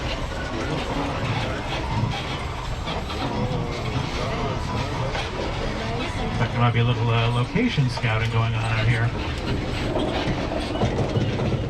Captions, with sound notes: (tram clattering) (tourists chattering) There might be a little location scouting going on out here.